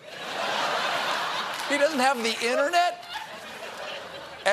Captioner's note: laughter